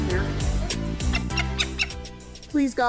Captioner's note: chattering; falcon chirping